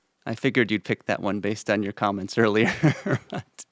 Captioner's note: laughs